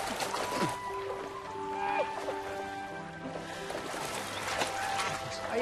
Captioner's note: laughing